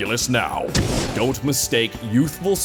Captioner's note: fwoosh